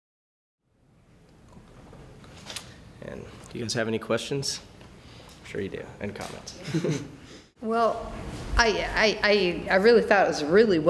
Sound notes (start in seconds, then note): 6.6 laughs